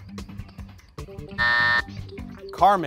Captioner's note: alarm buzzes